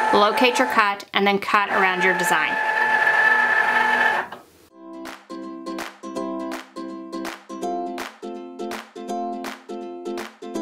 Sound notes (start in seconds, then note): 1.6 Cricut machine whirring; 4.8 upbeat music